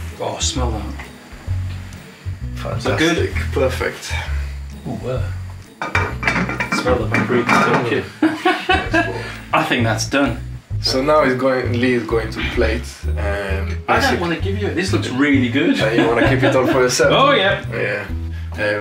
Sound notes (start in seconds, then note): 5.8 lid rattling; 6.3 both chattering